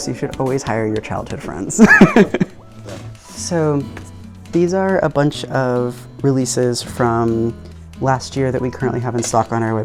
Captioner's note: laughing